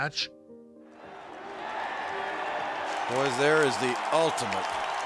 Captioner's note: audience cheering